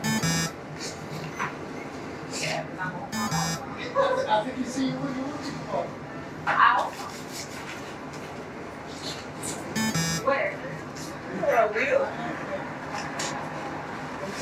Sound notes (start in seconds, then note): 0.0 ATM buzzes; 3.2 ATM buzzes; 4.4 shoppers chattering; 9.8 ATM buzzes; 11.1 shoppers chattering